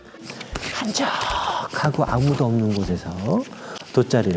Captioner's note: Haro breathing ASMR